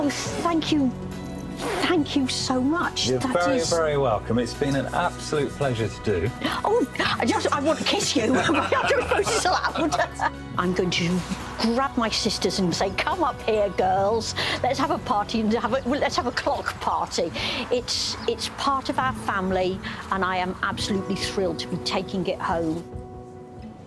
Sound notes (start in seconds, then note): 0.0 background music; 9.7 laughs